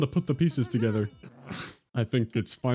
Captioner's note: sneeze